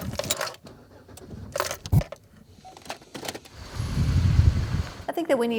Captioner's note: engine rumbles